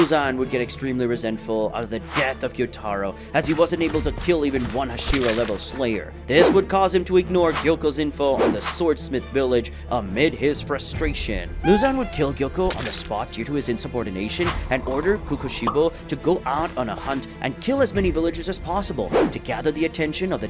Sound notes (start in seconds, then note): 11.0 nefarious tone